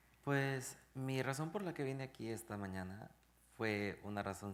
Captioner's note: speaking in Spanish